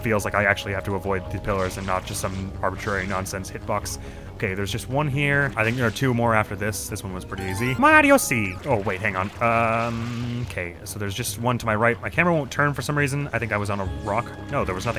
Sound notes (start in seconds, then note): 7.7 as Mario